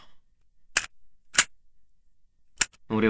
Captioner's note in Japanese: カセットテープをいじる音：カチャ！カチャ！